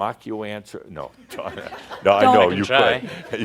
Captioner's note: Adamus chuckles